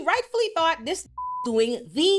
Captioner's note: beep